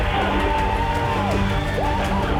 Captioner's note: cheers